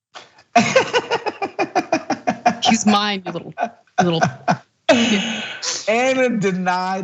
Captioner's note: laugh